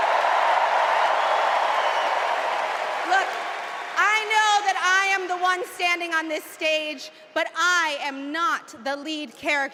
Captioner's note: cheers and applause